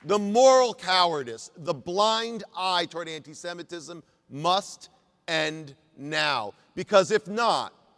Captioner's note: applause